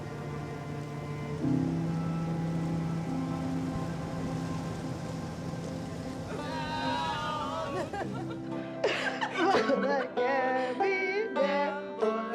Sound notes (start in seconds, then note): 5.3 music fades; 6.3 group vocalizing and laughing